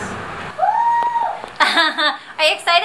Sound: screams

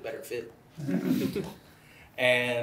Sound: laughter

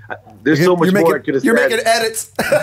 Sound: chuckle

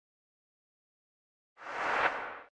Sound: whooshing

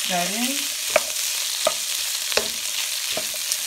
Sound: food sizzling

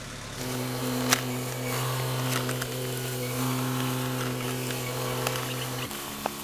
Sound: loud telehandler engine revving

